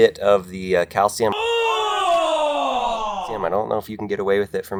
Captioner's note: people shout